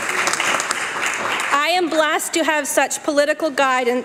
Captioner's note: applause